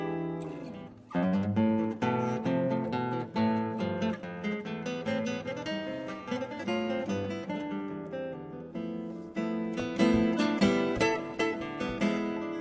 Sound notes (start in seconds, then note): none